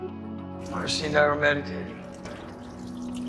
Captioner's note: voiceover